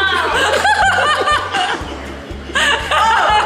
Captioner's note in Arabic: يضحك